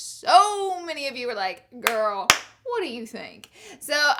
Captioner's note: claps